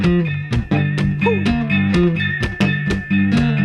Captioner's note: man woots